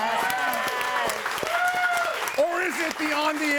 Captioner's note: audience cheering and applauding